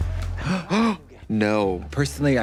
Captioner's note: both gasping